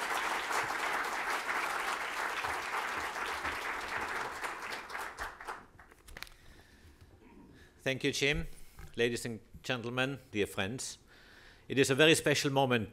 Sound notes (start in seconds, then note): 0.0 applause